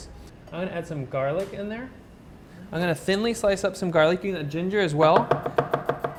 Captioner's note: chopping noises